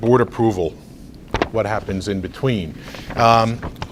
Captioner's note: rustles papers